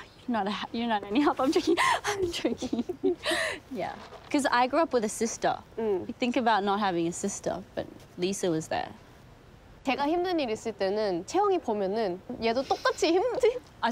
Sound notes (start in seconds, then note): 1.4 chuckles; 3.9 laughs; 9.4 speaks in foreign language